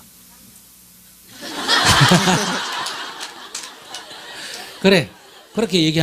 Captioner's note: audience Laughter